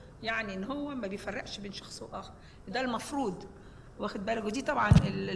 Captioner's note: speaking foreign language